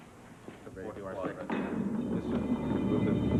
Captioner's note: metallic clank